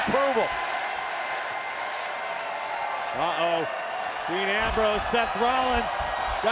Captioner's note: applause